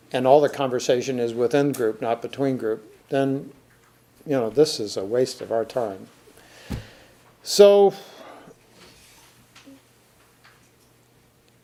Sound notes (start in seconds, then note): 8.1 sighs